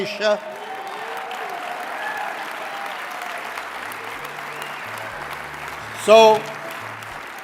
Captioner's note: applause, cheering